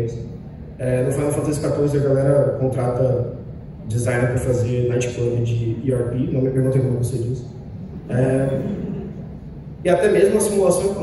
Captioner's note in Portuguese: uma risadinha na platéia